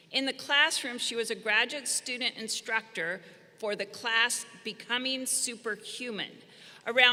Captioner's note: none